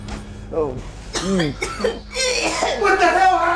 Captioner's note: coughs